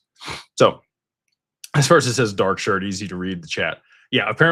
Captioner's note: snorts